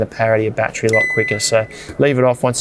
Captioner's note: fridge beeps